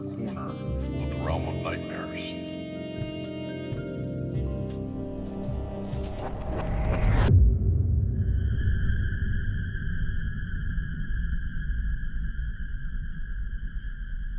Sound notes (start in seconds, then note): 5.1 mysterious transition sound; 8.3 eerie sound